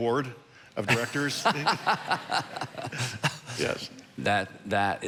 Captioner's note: congregation laughing